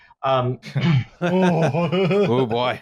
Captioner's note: laughs; chuckles